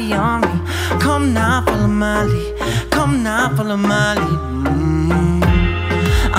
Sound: mmmm

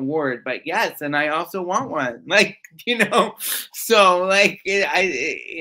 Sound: laughs

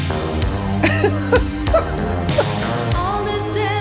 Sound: Glenn laughs

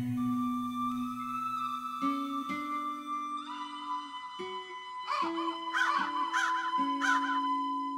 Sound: ravens caw

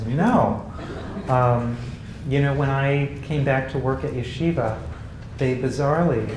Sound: laugh

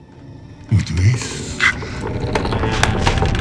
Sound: speaks in foreign language; wood creaking

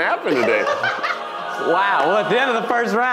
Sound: laughing

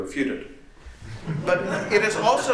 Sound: laughter

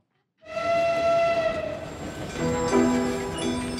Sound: train horn; western music

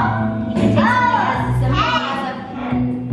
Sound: kids shouting

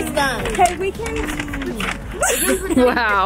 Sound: paper crinkles; laughs

